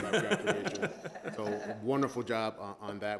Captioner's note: laughing loudly